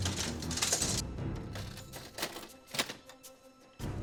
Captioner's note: clinking